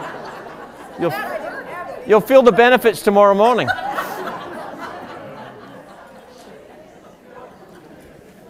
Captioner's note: laughter; laughter